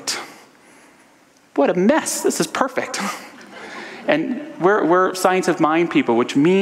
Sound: audience laughter

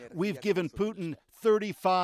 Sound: speaking Foreign Language

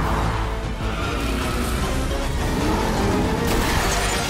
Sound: car engines roaring; metal crunching; glass shattering

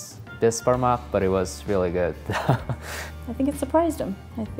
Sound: laughs

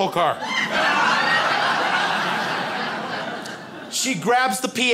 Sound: crowd laughs

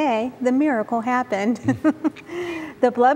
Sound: giggling

